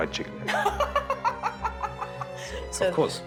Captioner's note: laughing